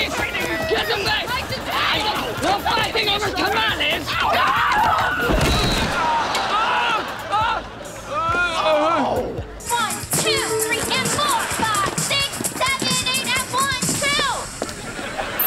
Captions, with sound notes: Give them back! No fighting over tamales! [screaming] [screaming] [groaning] One, two, three and four. Five, six, seven, eight. And one, two.